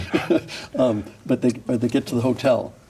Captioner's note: people laughing